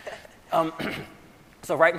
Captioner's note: laughs